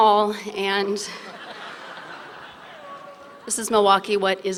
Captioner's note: laughter